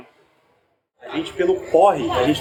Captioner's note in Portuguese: barulho da plateia se dispersando ao fundo